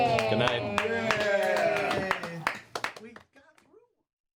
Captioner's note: cheering